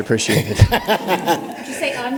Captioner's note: laughter